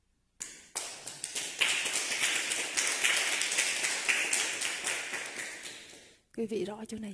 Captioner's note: clap